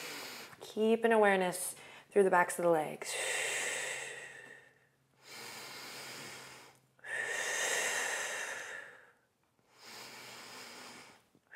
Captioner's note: deep inhales and exhales